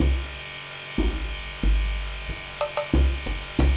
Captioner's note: banging